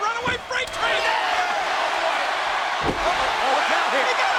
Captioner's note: audience cheering